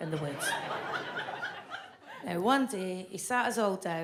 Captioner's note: audience laughs